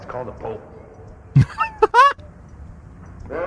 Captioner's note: laughter